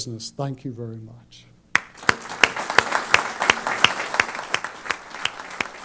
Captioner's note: applause